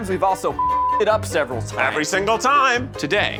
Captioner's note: beep